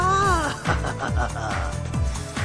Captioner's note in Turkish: gülme sesi̇